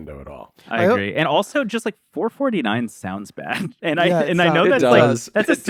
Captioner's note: laughs